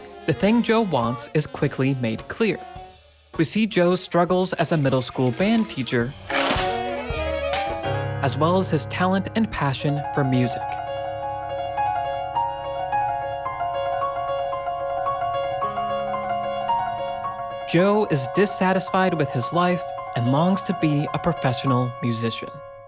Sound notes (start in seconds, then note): 6.4 clack; 10.7 moving piano music